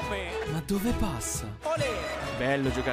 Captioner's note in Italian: Applauso